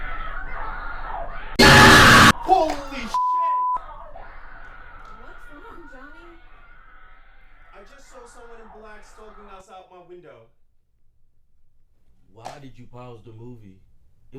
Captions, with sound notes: - Holy (beep)! - What's wrong Johnny? I just saw someone in black stalking outside my window. - Why did you pause the movie?